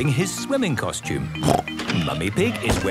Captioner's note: snorts